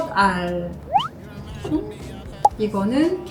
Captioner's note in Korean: 슈웅